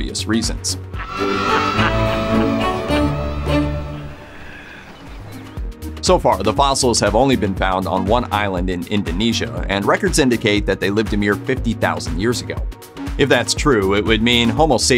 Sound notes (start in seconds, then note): 1.0 laughing